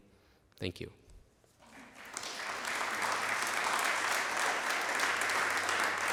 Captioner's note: applause